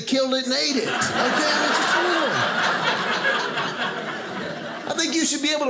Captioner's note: audience laughing